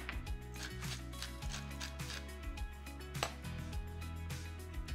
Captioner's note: shaker grinding